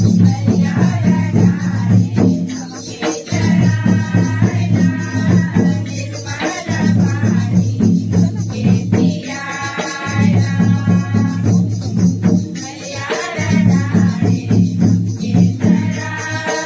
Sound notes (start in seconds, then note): 3.5 laughter